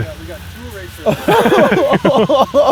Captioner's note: laughs